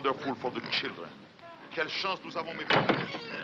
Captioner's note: speaking in french; pig squealing